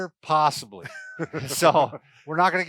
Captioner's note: laughter